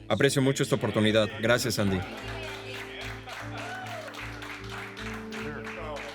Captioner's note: guests applauding